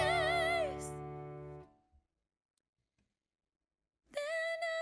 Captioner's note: sudden silence